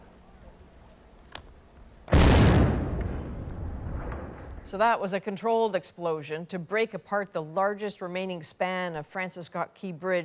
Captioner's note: explosion